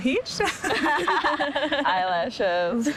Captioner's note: laughing